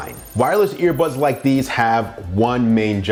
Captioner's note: electronic trilling